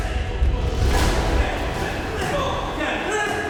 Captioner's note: men shouting, grunting